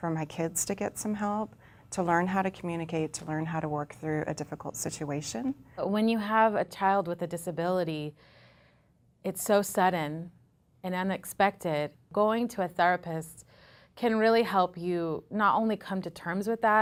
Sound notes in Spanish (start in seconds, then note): 8.2 inhala